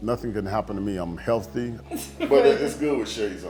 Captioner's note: family member laughing